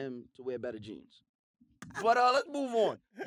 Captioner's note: laughter